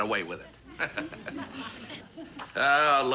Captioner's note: chuckles